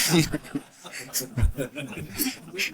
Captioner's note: laughter